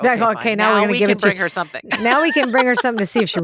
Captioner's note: laughs